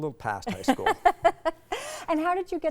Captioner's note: laughing